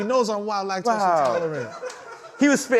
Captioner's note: laughter